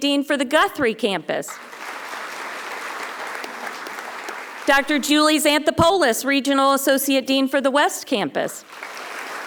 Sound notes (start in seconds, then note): 1.5 audience applauding